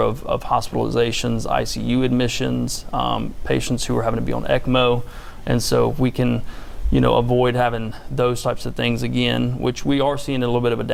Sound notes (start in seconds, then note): 3.9 blood oxygenating machine